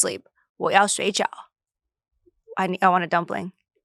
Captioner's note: speaks foreign language